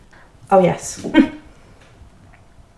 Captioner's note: laughs